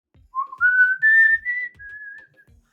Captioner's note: whistles